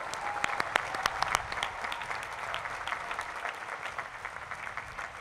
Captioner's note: applause